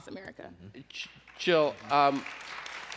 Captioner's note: applause